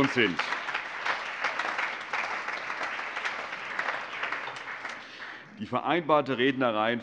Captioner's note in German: Allgemeiner Beifall